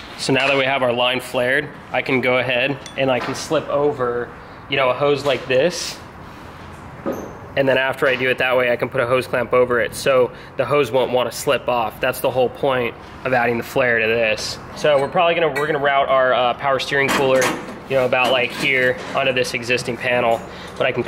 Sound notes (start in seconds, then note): none